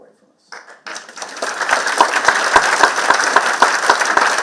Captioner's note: audience clapping